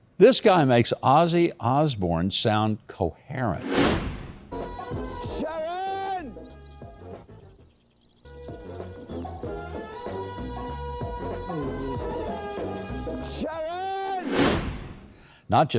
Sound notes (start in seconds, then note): 3.6 wind whooshing; 6.2 playful music; 14.2 wind whooshing